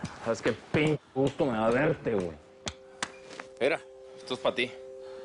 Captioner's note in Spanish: Palmadas